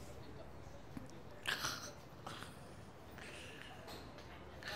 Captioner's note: snoring